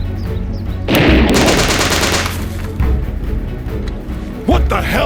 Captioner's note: gunfire rattles